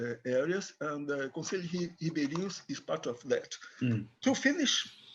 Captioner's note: speaks in foreign language